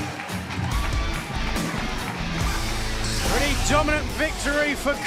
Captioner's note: cheers and applause